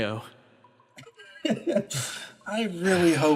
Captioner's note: Arkat Laugh